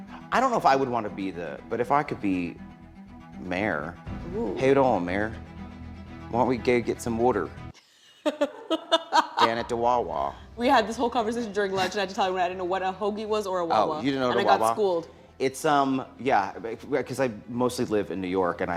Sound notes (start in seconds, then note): 4.5 in eastern accent; 8.2 laughter